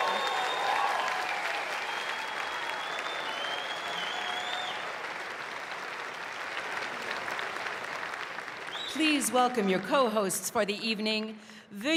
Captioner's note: cheering and applause